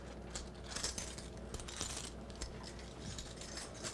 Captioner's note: cuffs clicking